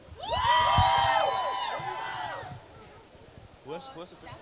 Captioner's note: crowd cheering